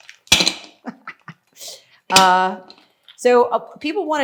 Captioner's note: laughing